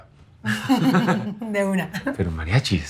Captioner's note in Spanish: Risas